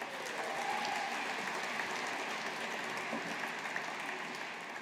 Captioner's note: audience applauding